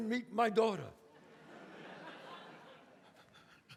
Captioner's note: audience laughs